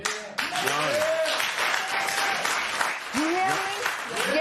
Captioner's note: cheers and applause